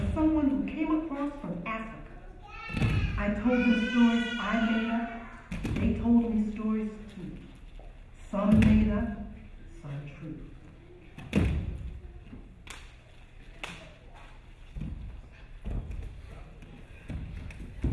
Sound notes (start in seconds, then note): 11.2 feet stomping; 13.5 hands slapping